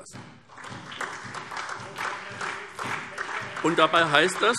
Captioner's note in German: Beifall SPD